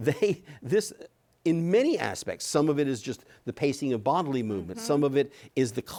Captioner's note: chuckles